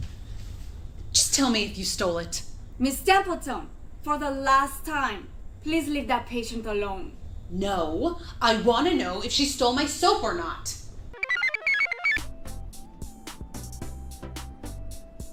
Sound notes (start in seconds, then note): 11.2 computer chirps; 11.2 blissful music